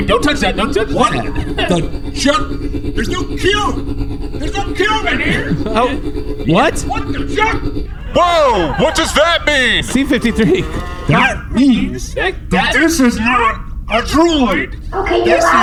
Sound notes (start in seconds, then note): 0.0 chuckling nervously; 7.8 also yelling; 9.8 tersely